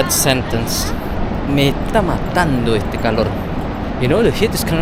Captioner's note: Spanish